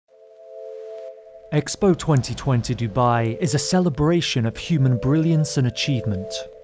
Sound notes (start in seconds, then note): 0.1 static crackling; 0.1 bright music